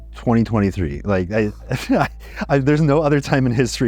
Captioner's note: both laugh